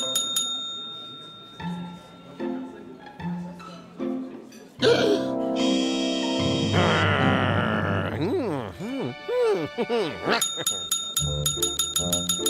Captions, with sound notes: (gasps) (growls) MM. HMM. MM. HMM-HMM. (bell ringing rapidly)